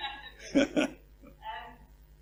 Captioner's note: laugh